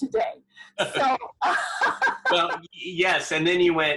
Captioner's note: laughs